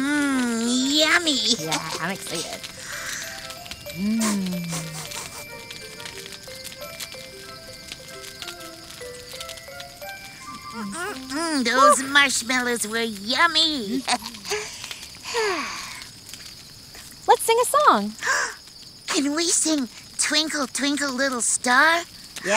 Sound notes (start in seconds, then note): 13.8 giggles; 15.4 sighing